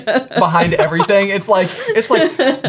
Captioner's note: laughing